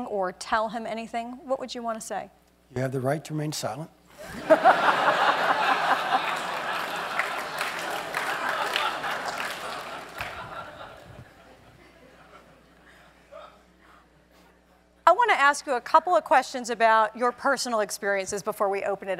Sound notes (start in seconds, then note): 5.5 applause; 5.7 laugh